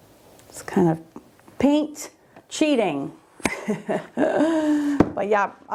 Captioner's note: laughing